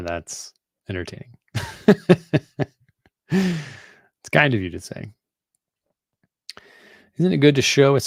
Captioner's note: laughing